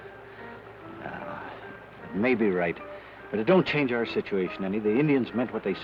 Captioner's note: sighs